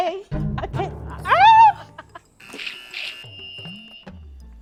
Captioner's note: laughs; buzzer pressed